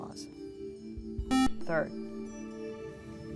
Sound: buzzer

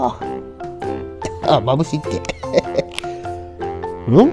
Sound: laughs

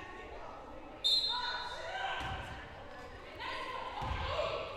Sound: whistle blowing

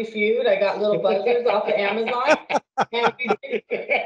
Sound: laughing

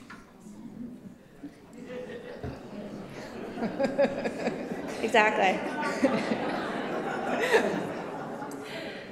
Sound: laughter

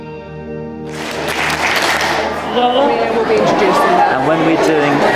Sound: students clapping

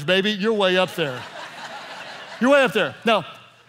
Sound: laughing

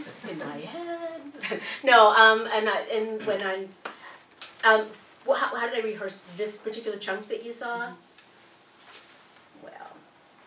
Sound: laugh

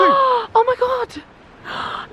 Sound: gasping

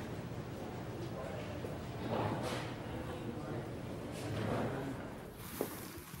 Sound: people chatting in background

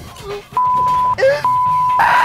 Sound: crying

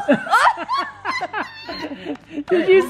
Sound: laughing

